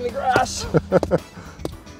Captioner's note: laughing